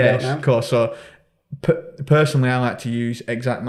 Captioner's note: chuckling